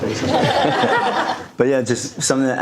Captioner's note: audience laughing